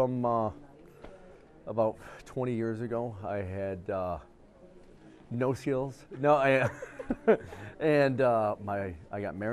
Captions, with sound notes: - OH, IT CAME ABOUT PROBABLY FROM ABOUT 20 YEARS AGO, I HAD NO SEALS, NO I, (LAUGHS)